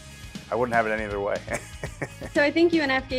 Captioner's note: guffaws